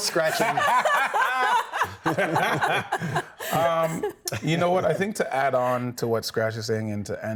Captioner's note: everyone laughing